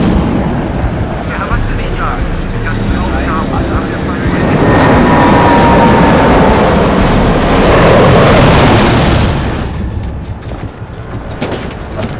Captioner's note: jets flying; jets flying